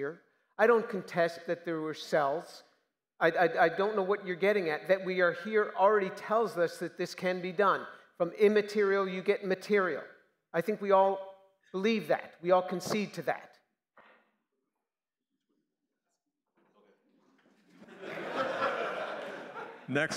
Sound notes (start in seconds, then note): 14.4 silence; 17.7 laughter